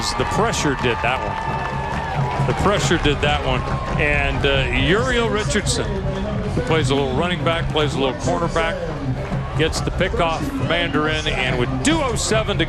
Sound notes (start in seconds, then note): 1.2 cheering